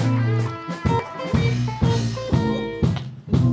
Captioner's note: rustling around